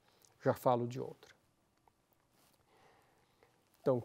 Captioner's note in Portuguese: pausa sonora